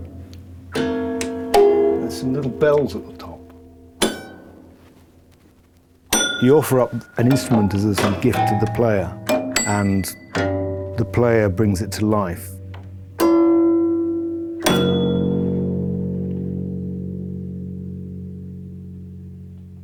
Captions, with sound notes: (CLUNK, DING) There's some little bells at the top. (DING) You offer up an instrument as a sort of gift to the player, and the player brings it to life. (DING, CLANK) (LOW, REVERBERATING HUM) (HUM FADES OUT)